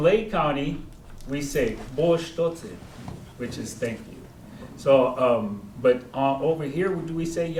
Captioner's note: speaking koi; speaking koi